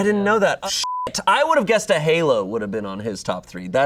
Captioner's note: beep